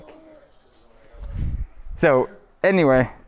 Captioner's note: air whooshing